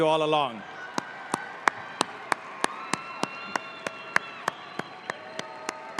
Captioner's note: audience applauding and cheering